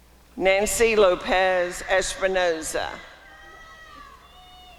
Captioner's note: applause and cheering